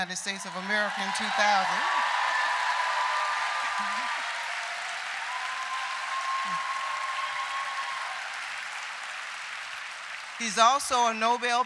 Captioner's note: loud applause